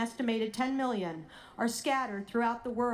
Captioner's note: none